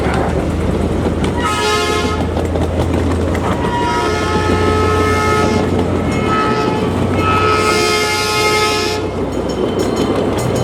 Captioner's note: train horn blows